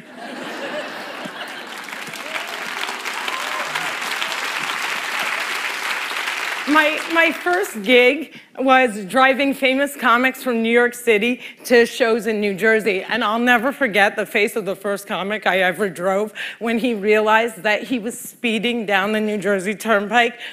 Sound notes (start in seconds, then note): 0.0 laughter; 3.5 applause